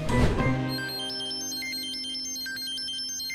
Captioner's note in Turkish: Telefon çalıyor